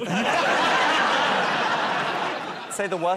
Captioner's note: laughter